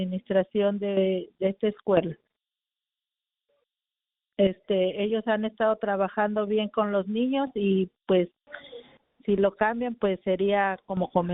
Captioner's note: speaking in spanish